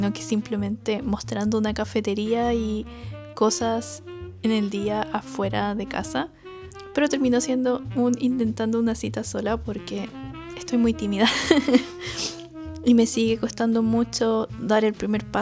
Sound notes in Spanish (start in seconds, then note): 11.2 risas; 12.0 resoplido